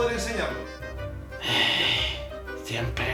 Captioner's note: sighs